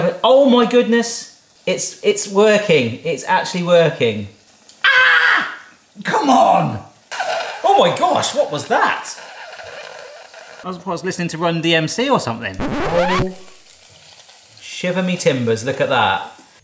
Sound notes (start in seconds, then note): 4.8 shrieks; 7.1 oil crackles; 12.5 record scratches